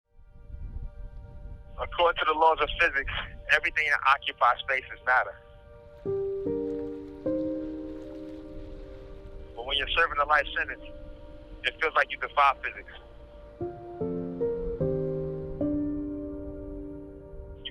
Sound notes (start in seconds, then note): 0.1 wind sounds; 5.4 piano music; 12.5 piano music